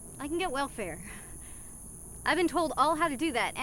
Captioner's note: sighs